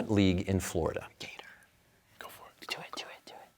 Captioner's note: whispering